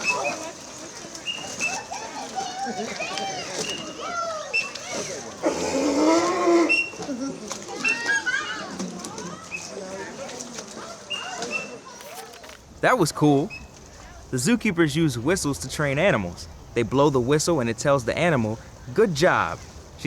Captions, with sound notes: (whistle chirping) (seal barks) (whistle chirping) That was cool! The zookeepers use whistles to train animals. They blow the whistle and it tells the animal good job.